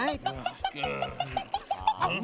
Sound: clucking

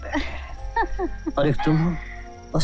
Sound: laughs

